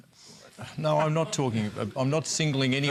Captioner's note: laughter